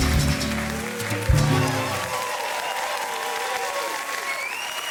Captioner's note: audience applause